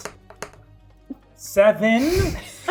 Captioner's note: die rolling